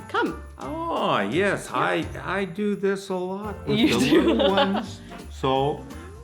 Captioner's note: laughs